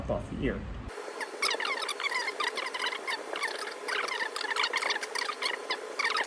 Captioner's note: fast forwarded speech